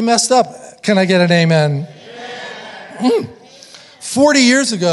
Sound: audience muttering

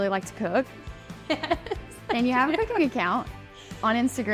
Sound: laughing

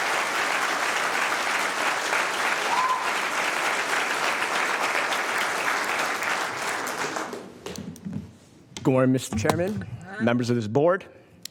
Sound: applause

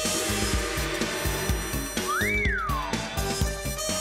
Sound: whistles

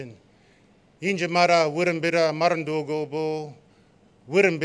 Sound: non-english speech

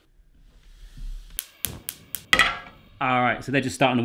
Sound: gas burner clicks

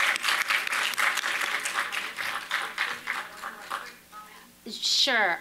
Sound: applause

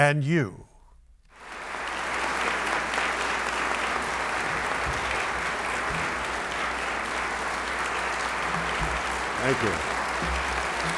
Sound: applause

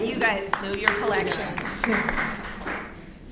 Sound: applause

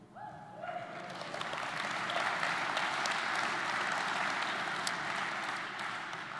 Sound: audience applauding; audience cheering

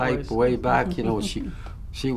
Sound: laughs

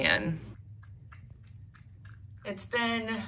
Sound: cat slurping food

